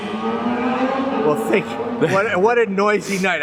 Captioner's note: laughs